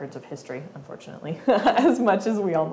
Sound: laughing

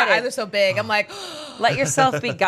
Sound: gasps

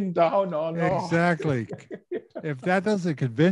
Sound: laughs

